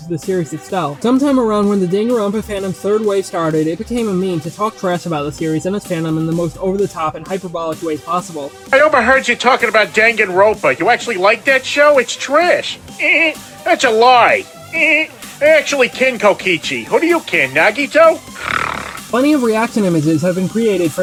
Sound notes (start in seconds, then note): 13.6 laughs; 18.3 snarls